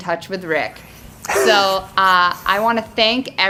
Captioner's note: chuckles